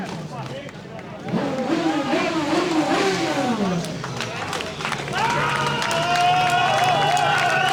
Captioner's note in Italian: Applauso